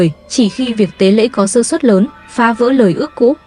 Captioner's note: bà nói thêm vài lời bằng thổ ngữ